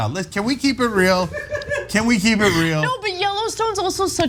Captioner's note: laugh